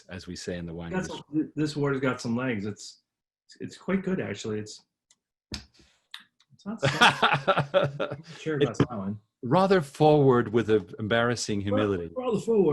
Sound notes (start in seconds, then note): 5.8 smacks lips; 6.8 laughs